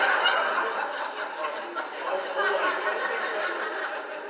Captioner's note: audience laughs